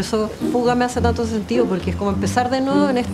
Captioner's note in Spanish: Zumbido de insecto